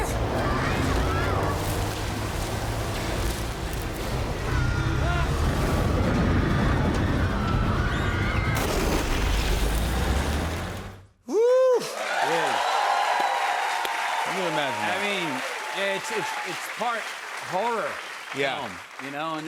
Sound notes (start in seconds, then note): 4.3 children screaming; 11.4 cheers and applause